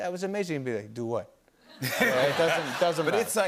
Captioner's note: laughter